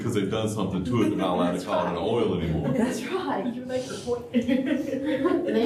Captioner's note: laughter